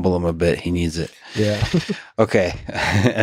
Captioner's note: laughs